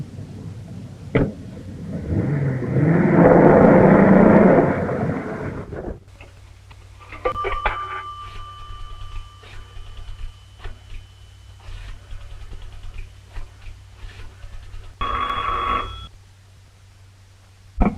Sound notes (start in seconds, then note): 2.3 engine rumbling; 7.2 phone dings; 8.9 dial whirring; 14.0 phone rings